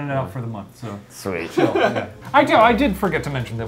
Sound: laughs

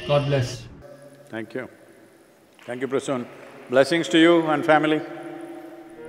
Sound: applause

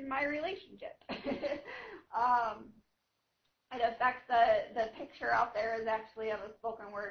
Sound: laughing

